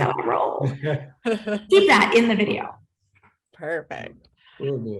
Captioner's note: laughs